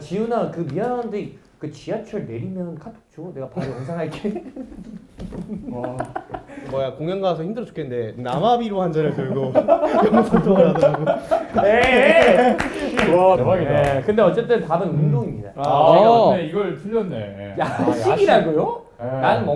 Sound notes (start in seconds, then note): 11.1 shhh